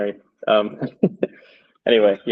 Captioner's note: chuckles